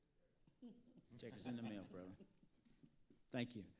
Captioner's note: panelists chuckling